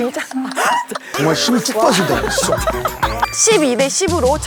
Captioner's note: complaining